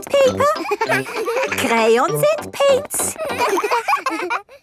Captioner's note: all laughing